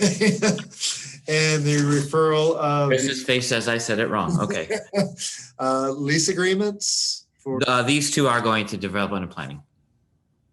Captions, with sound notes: - And the referral-- - Betz face when I said it wrong. (laughing) - Lease agreements for the-- - These two are going to develop on a planning.